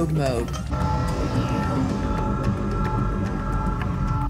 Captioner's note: machinery engaging